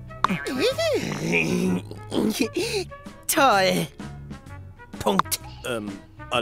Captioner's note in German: grummel